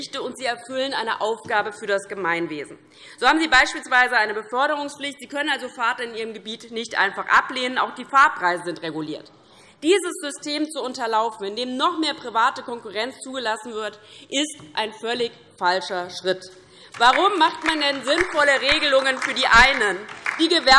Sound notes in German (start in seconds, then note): 16.8 Beifall DIE LINKE